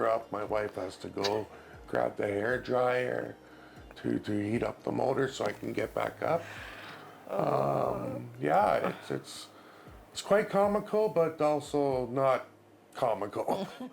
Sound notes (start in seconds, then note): 7.3 groans